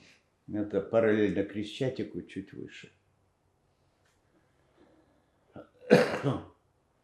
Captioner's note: coughing